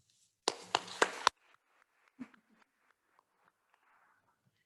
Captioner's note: attendees applauding